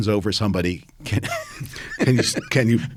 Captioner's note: both laughing